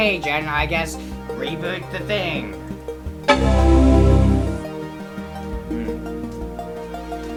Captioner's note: Mac Quadra 900 boot chime